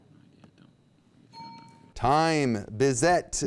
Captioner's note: bell ding